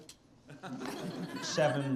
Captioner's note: students laughing